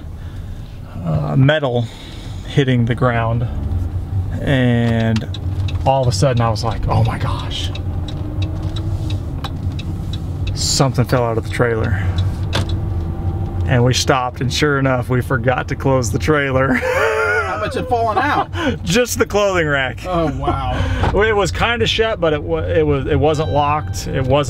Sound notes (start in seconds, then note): 16.6 laughs loudly; 20.5 laughs